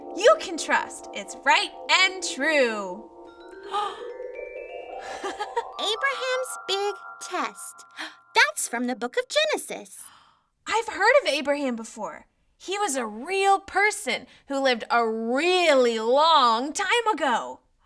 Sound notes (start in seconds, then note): 3.7 gasps; 5.0 laughs